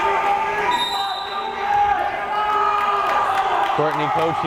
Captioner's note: whistle blares